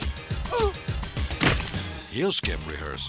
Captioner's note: grunting